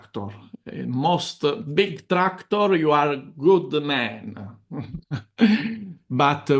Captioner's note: laughs